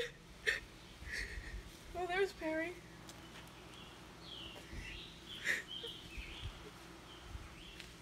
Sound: crying

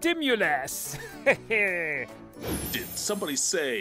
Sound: laughs

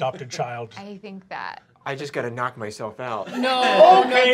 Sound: laughter

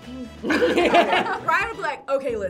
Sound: group laughs

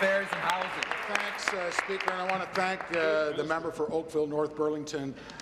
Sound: some Applause

